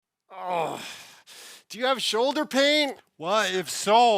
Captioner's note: groans